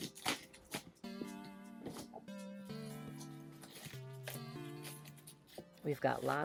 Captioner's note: packaging rustling while synth music continues playing